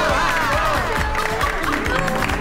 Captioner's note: laughing